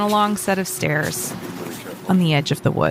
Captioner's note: snow ambi